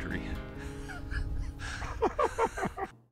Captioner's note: laughing